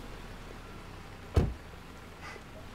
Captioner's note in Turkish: Kapı kapanma sesi